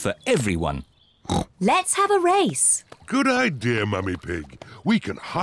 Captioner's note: snorts